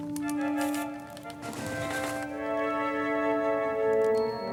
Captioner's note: camera clicking